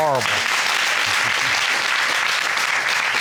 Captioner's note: applauding